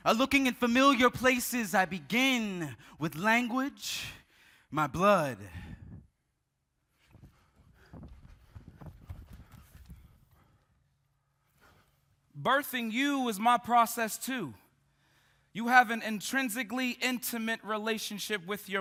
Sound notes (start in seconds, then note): 7.0 footsteps tapping; 7.7 group panting